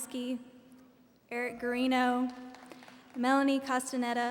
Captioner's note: audience applauding